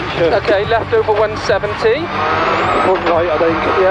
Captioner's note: dictating pacenotes